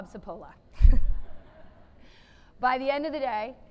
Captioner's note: laughing